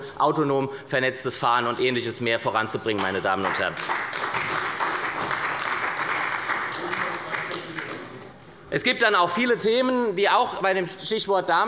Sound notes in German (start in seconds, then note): 3.3 Beifall bei der SPD